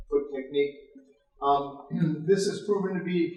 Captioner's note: clears throat